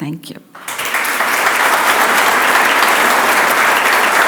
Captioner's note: audience applauds